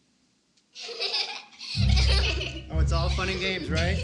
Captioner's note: giggling